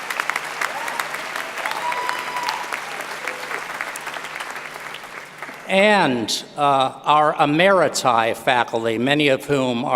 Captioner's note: applause